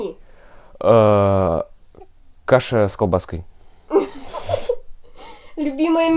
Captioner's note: laughter